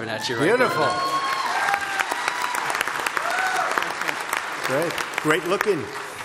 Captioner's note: applause